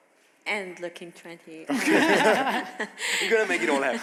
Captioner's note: chuckles